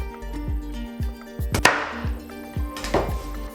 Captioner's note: doof